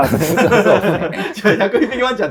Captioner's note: laughing